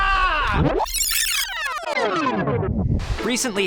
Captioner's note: cheering; rewinding sounds